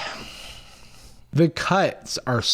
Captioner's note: sighs